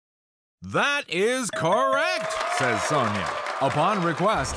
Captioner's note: audience cheers